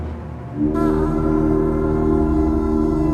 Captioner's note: goblin horn blowing